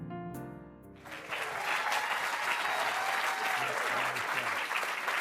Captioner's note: audience clapping